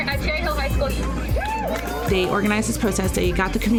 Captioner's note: cheering